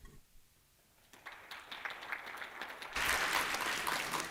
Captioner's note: applause